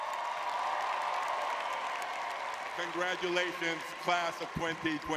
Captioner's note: audience cheering